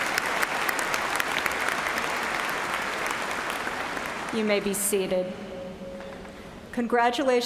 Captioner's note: applause